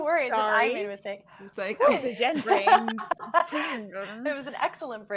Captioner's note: all laughing